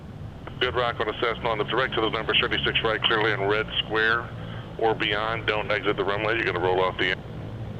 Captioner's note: radio